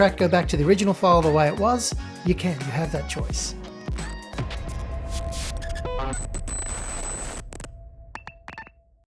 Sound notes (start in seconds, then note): 5.1 static crackling; 8.1 logo beeping